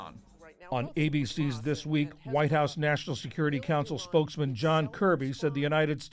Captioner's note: voice-over